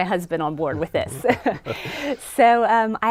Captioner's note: laughing